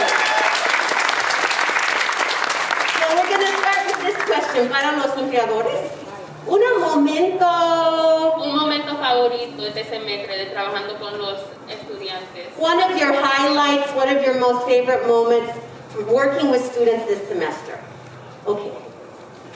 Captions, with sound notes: (audience applauding) So we're gonna start with this question. (speaking in foreign language) One of your highlights, one of your most favorite moments working with students this semester. Okay.